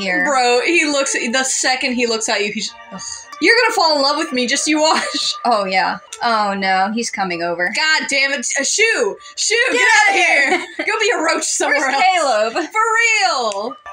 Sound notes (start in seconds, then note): 4.8 chuckle; 9.7 laugh